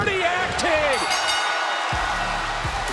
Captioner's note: bell rings